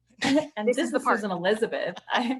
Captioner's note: laughter